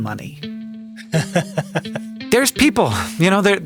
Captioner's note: laughs